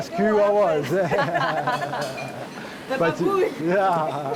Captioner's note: both laughing; laughs